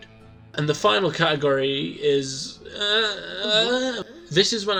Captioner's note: confused Noises